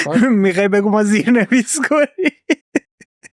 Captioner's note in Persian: خنده